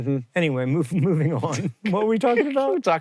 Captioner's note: HANK giggles; laughing